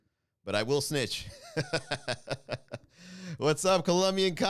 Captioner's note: laugh